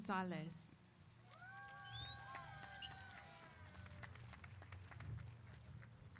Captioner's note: applause